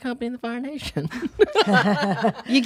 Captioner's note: laughs